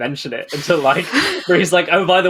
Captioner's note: laughs